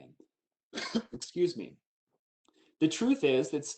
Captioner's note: coughs